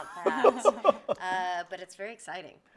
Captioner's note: group laughing